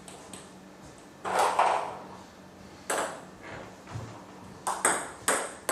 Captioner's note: balls ping pong hitting continues